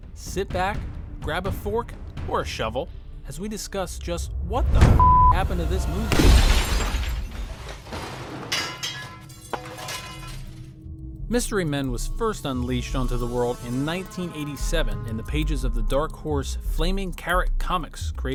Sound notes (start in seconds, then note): 4.9 beep